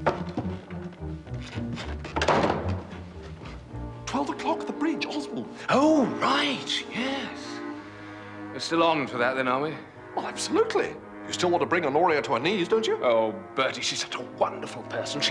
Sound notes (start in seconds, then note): none